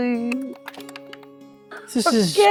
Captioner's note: die rattling